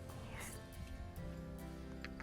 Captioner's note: slurping